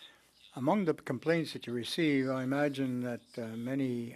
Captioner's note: speaking French